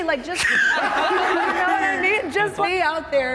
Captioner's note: everyone laughing